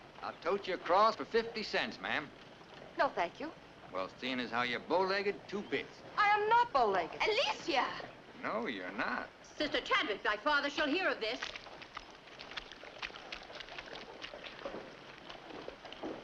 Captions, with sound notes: - I'll tote you across for 50 cents ma'am. - No thank you. - Well seen as how you bowlegged, two bits. - I am not bowlegged. - Alicia! - No you're not. - Sister Chadwick, thy father shall here of this. (footsteps in mud)